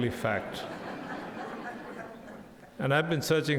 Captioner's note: audience laughs